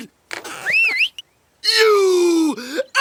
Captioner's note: whistling